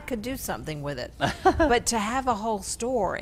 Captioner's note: laughs